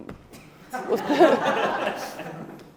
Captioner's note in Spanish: Risas